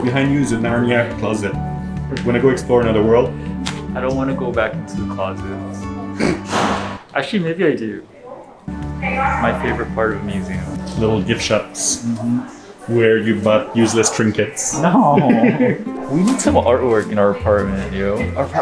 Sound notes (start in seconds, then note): 6.1 chuckles; 14.7 laughs